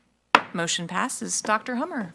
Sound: gavel thwacks

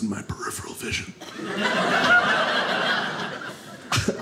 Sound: audience laughing

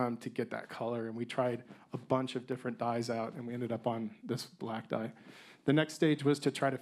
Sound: none

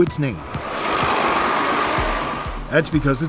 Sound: bus noise

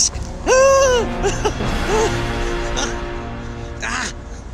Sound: mock yelling in anguish

